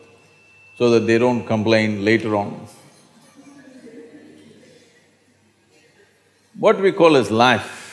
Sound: laughs

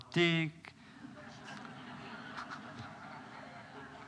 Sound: laughter

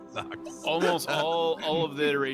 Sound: laughs

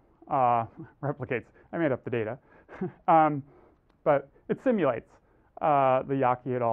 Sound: laugh

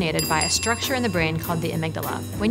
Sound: bell rings

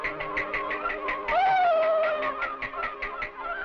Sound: yelling

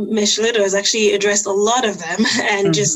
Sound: chuckles

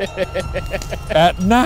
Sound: laughter

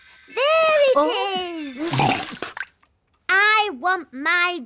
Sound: gasps

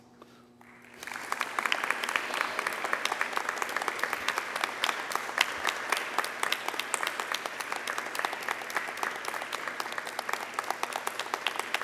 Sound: applause

